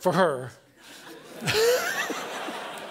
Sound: laughter

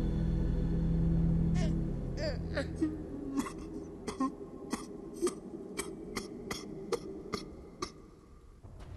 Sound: sobbing

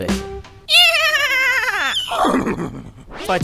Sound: neighs

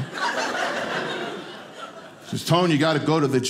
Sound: audience laughing

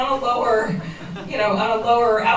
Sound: soft laughter

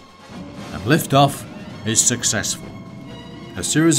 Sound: aircraft whirring

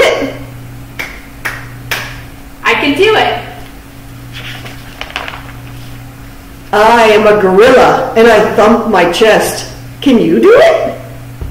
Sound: claps hands

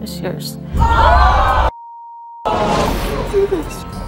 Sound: audience screaming

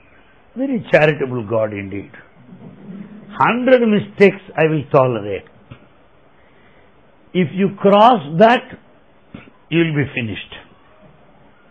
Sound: laughter

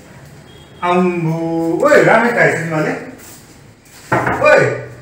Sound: knock Knock

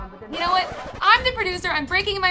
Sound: record scratches

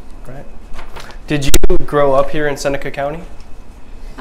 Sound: microphone vibrates/muffles

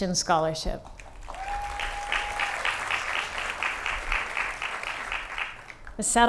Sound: applause

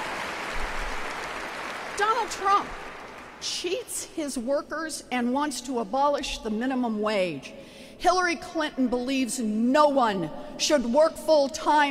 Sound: applause

